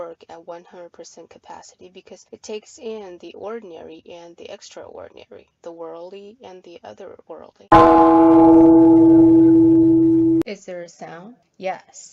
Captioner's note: sound of a gong